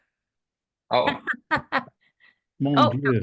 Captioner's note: laughs